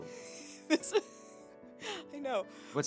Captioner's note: laughing